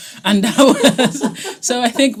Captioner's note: all laughing